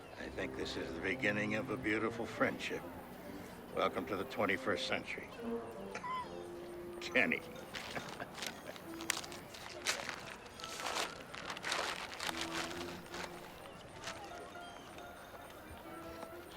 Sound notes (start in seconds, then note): 7.2 laughing